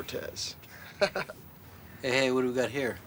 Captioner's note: chuckles